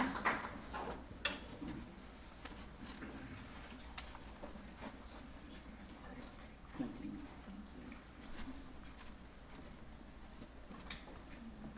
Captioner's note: applause; background conversations